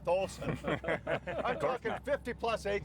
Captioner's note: all laughing